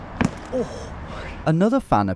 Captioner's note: feet stomping